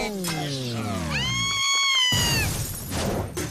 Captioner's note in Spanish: Gritos